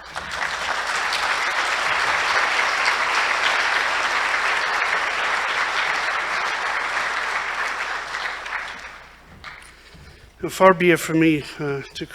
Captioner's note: applause